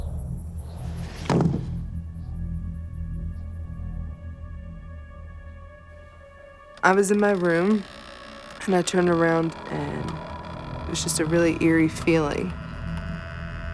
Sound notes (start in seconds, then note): 1.7 whistling stops